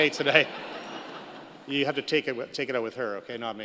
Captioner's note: laughter